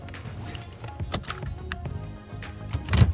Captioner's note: seat belt clicks; gears shift